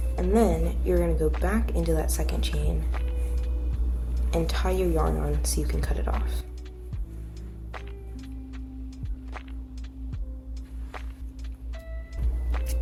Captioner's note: scissors cut